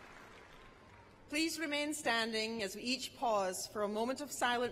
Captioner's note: cheers and applause